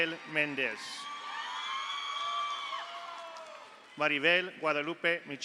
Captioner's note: audience cheers; audience applauds